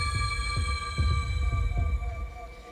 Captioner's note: heartbeats